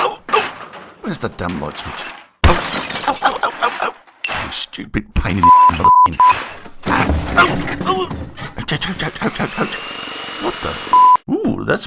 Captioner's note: loud noises / Crashes / Bangs / Swearing!